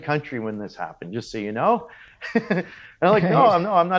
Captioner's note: laughs